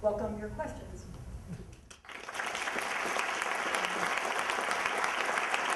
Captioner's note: applause